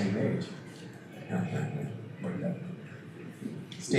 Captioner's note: laughs